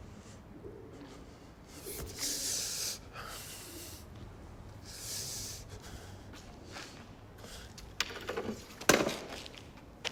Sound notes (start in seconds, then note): 2.0 breathes heavily